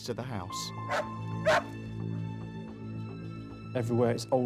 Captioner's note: dog barking